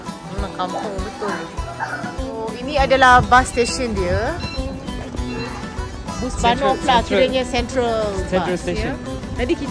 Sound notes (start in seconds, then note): 0.0 background music; 6.3 speaking German